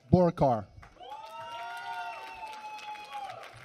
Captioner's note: applause